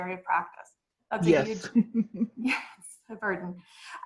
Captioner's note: chuckles